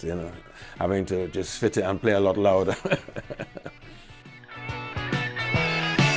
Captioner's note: chuckles; rock music